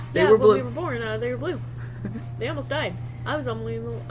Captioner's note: laughs